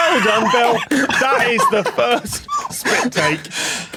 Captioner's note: guests laughing; applauds